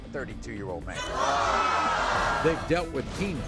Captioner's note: audience groaning